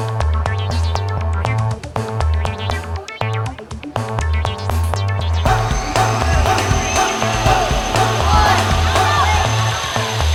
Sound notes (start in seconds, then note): 5.5 loan mower whirring